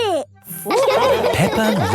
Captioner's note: all laughing